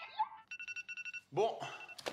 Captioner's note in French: signal sonore